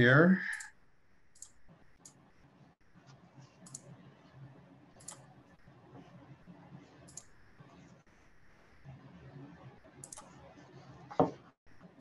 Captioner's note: silence